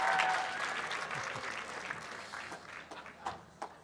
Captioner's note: applause and cheering